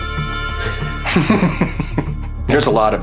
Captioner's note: laughs